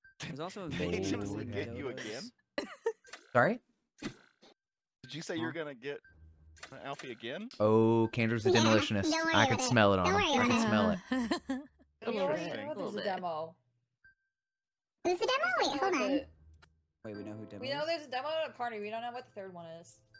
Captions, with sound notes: - There's also a relationship to get you again. - All right. - Did you say you're gonna get Alfie again? - Oh, Candor's a demolitionist. I could smell it on him. I could smell it. (laughing) - Who's the demo? Who's the demo? Wait, hold on. - Wait, we know who demo is. - We know there's a demo at a party. We don't know what the third one is.